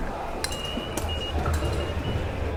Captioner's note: beeps